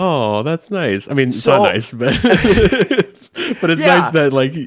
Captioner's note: laughs